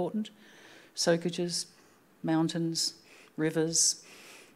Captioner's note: speaking Anmatyerr